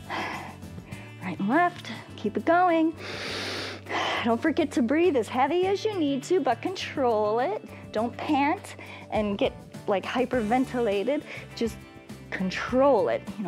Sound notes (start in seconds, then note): 3.0 inhales and exhales